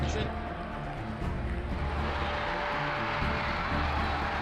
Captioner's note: crowd cheers